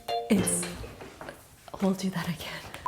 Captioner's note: chair clatters